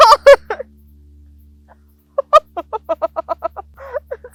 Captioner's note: laughs